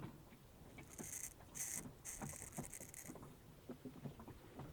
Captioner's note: scraping noise